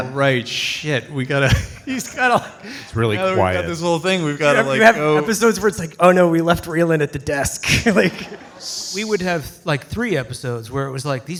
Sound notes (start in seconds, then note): 1.5 soft laughter